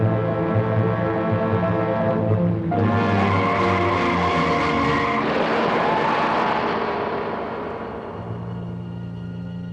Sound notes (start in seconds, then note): 3.4 tires skidding; 5.0 loud crash